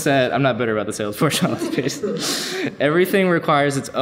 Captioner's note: laughs